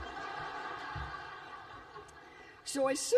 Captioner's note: laughter